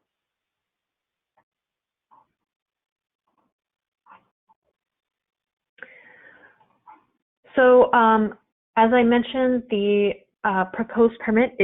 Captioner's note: silence